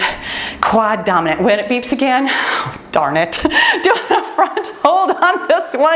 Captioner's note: timer beeps